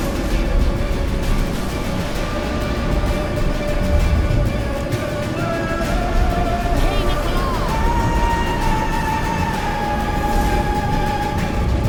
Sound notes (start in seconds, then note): 7.1 recites incantation